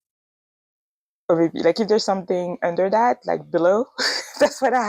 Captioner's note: laughs